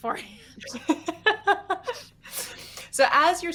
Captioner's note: laughing